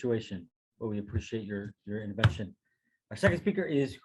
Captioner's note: thuds